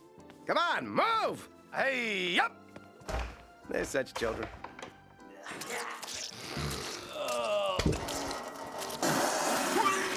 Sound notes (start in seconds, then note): 5.4 retching; 6.2 snorting; 7.1 groaning; 8.1 creaking; 9.1 retching